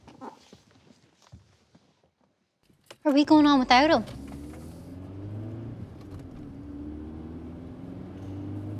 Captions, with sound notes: Are we going on without him? [CAR ACCELERATES]